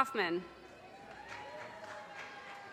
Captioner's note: audience cheers and applause